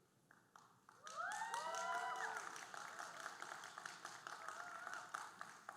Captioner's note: audience cheering and applauding